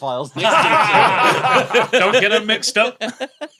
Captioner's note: group laughs heartily; continues giggling